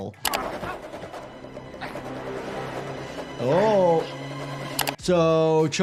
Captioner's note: helicopter whirring